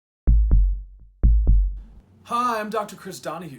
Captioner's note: heartbeat thumping